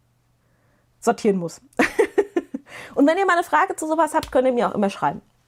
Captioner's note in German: gelächter